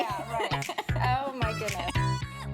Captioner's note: laughing; upbeat music